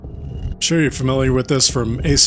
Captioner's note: laughs